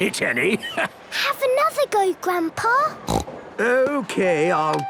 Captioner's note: snorts